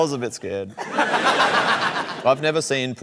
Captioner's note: laughter